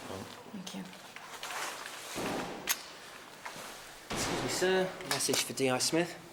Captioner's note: distant banging